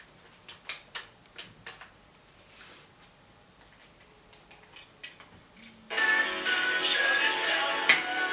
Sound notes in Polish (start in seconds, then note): 5.9 Do dzwoni telefon